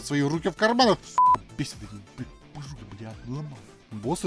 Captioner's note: angry russian swearing